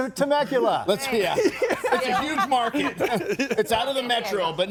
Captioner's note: group laughs